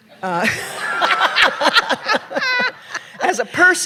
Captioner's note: laughter